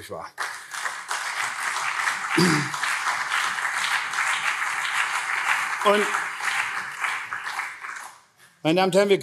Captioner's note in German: Beifall CDU und SPD